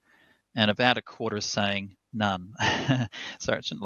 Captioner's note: laughs